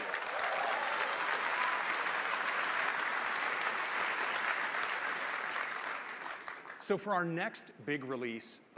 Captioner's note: applause